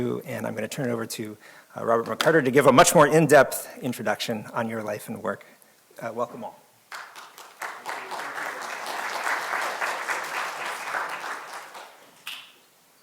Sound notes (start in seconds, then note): 6.9 audience applauding